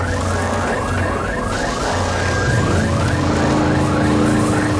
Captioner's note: alarm blaring; electricity crackling